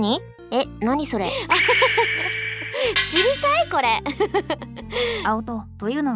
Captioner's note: laughs